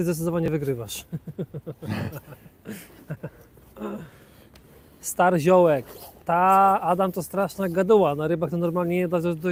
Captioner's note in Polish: śmiech